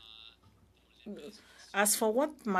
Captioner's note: speaking in French